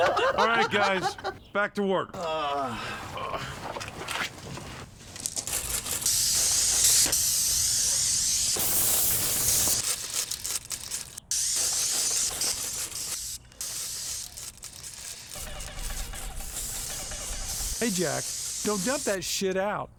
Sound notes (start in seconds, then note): 0.0 laughing; 2.1 painters groan